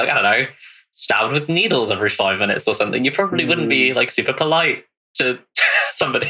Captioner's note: laughing